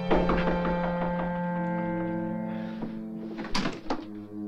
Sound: knocking

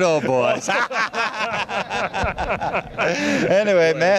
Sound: laughter

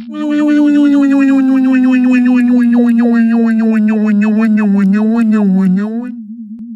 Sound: motor slowing down

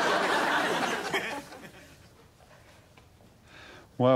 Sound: audience laughing

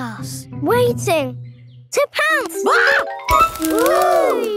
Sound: screams

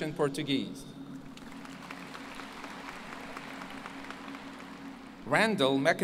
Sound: applause

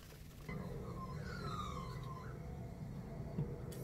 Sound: bird caws

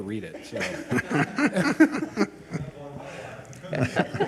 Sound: all laugh

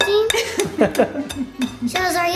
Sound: laughing

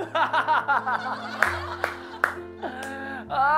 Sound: laughing manically

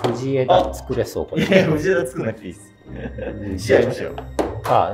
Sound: laughing

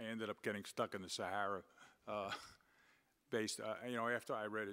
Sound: laughs

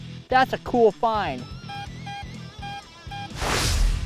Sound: beeping; whooshing

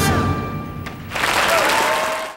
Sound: audience cheers and applauds

